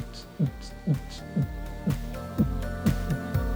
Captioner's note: mouths techno beat